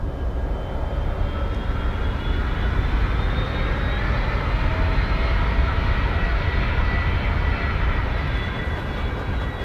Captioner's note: airplane engine whirring